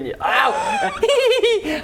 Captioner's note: childish laugh; gasp